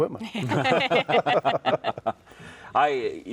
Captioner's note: everyone laughing